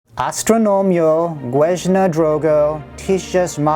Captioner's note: Polish